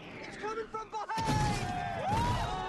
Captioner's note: soldiers cheer; explosion